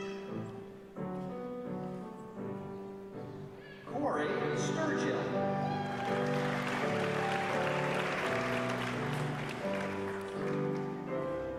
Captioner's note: applause